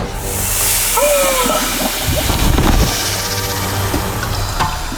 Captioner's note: Orloff screams